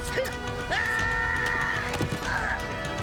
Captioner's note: yelling